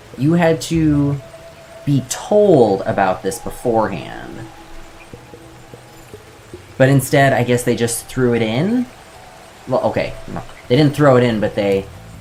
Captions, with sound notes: You had to be told about this before hand. [ Water falling in background ] I guess instead they decided to just put it in? Well okay, They didnt throw it in but they